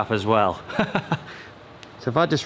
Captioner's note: laughs